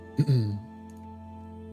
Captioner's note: clears throat